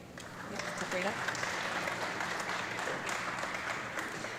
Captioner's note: audience clapping